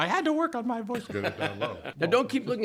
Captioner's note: laughter